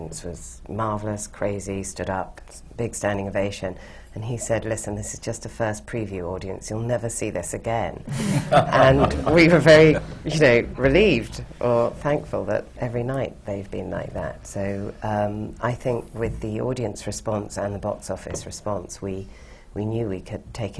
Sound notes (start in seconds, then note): 8.1 laughter